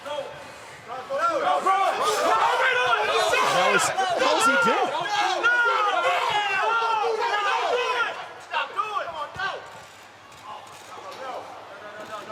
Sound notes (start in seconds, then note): 2.2 overlapping chatter; 5.2 overlapping yelling